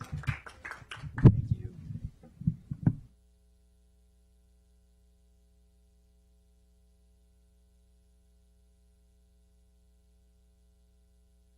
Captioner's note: clapping